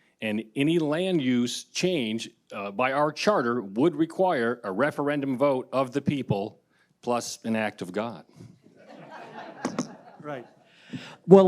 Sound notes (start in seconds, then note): 8.8 audience laughing